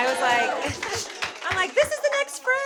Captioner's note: audience clapping